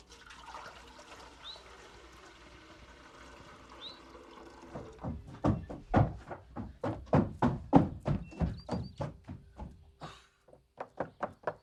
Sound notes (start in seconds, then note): 0.0 water pouring; 4.8 thumping footsteps